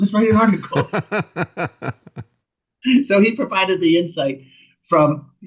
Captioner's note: laughter